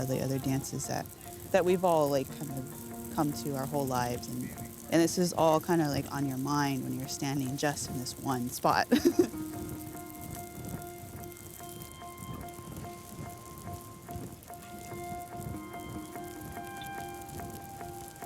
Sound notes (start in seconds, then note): 8.9 laughing; 12.2 fire crackling